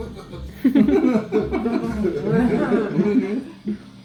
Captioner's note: people laugh